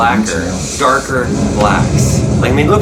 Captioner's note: explosion blasting